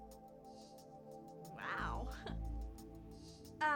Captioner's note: laughs